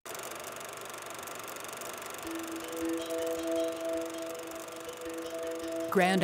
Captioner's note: film clicking